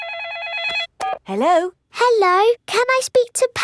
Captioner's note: phone rings